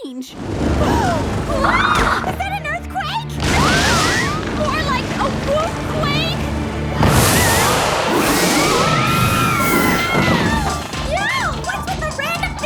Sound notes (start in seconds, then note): 8.3 rumbling and screaming